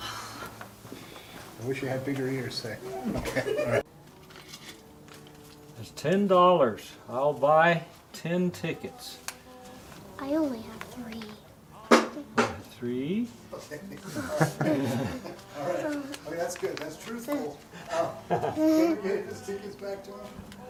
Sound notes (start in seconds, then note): 2.9 laughter; 14.0 laughter